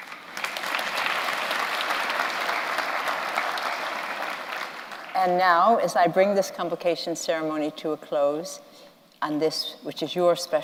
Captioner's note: applause